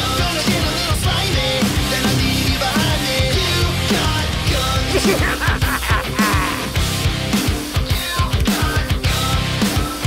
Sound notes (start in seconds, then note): 4.8 insane laughter